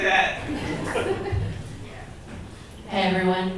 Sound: audience laughs

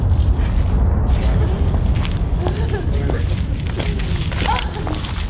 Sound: woman panting

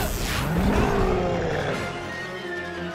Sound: growls

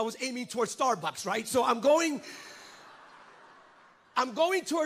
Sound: congregants laugh

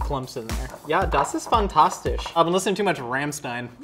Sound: speaks German

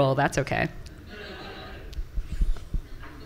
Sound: laughter from the audience

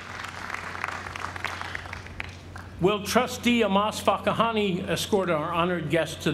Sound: applause

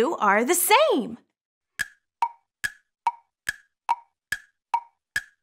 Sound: clock ticking

